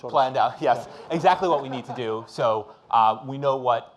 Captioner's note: audience laughing